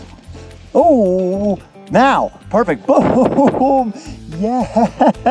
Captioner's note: chuckles